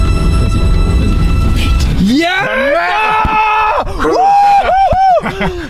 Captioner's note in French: cris de joie